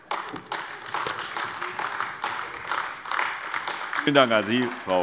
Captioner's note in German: Beifall AfD